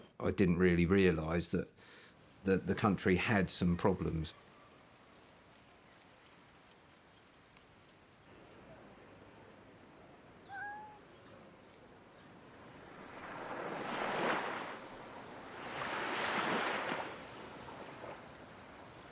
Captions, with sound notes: that I didn't really realize that, that the country had some problems. [cat meows] [waves lapping]